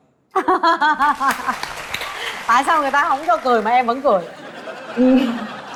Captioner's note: laugh